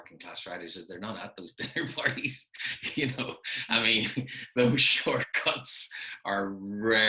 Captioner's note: laughing